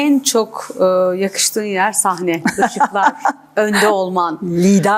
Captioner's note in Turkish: kahkaha